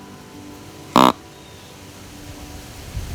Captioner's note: sound of grunt call